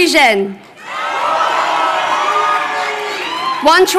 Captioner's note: crowd cheering